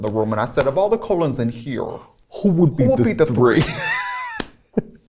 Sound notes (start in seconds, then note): 3.5 Katya laughing